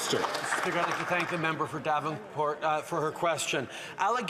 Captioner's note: some Applause